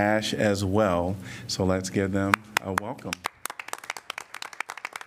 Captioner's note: applause